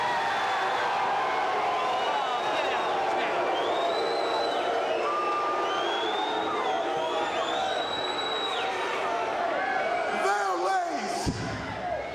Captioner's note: crowd chattering